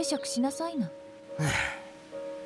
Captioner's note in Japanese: ため息